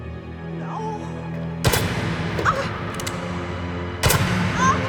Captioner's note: gunshots